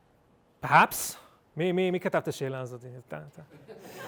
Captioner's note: speaking hebrew; laughter